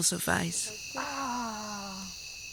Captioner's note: sounds of pain